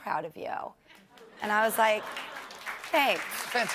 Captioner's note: applause